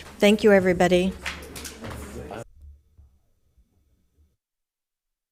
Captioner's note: objects clanging